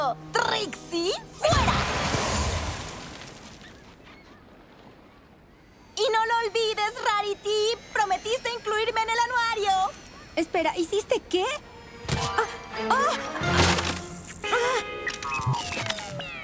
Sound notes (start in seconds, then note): 13.6 crunch